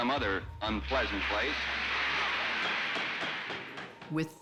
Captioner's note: applause